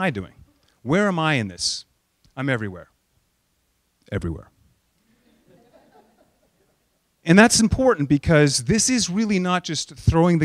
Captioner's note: laughter